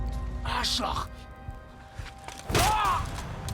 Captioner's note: speaking German